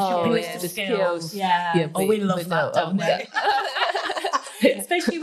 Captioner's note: laughing